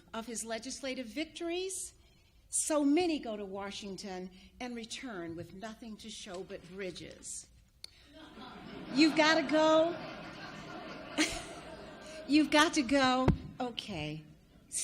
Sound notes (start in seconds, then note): 8.1 audience laughs; 10.5 laughs